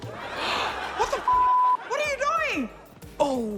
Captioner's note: gasps